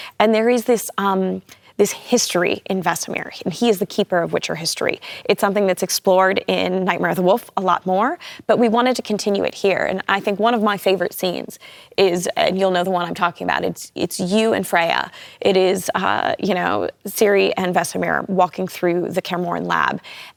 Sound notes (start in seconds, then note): none